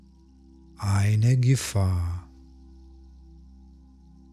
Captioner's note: german